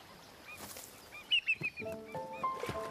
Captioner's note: chirping